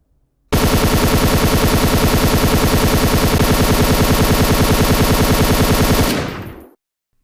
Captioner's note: echo-less gunfire